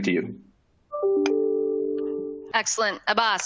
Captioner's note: signal sound